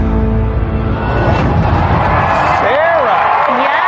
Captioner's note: cheering and applause